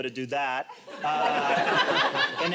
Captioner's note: audience laughs